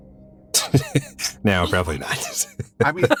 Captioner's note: chuckles